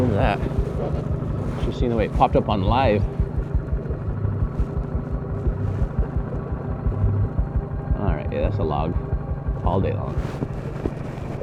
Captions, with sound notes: Should have seen the way it popped up on live. (engine buzzing) All right, yeah, that's a log all day long.